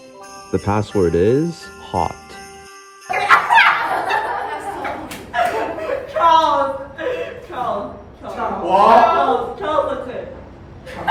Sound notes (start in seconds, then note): 3.2 laughs; 3.2 chortles